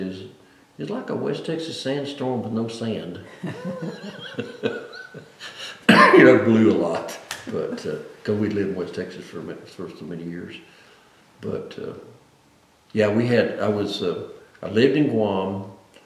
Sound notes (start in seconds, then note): 3.2 laughs